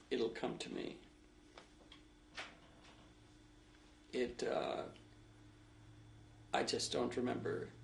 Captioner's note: pauses for 3 seconds